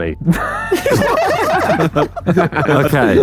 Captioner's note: group laughing